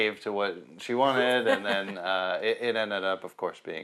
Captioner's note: laughs